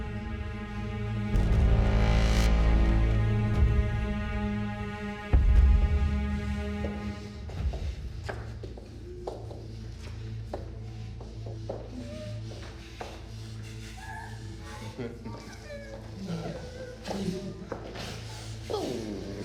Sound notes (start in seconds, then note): 7.4 footsteps tapping; 16.2 victims groaning